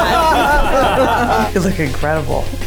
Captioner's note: everyone laughs